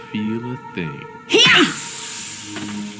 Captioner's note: smack